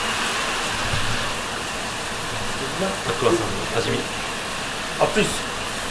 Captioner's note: aahh~